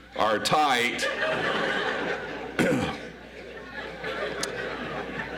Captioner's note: audience laughs